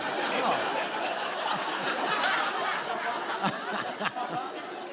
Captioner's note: laughter